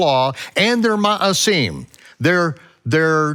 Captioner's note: speaks in foreign language